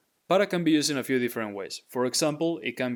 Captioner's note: speaking in Spanish